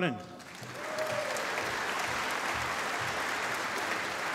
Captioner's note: applause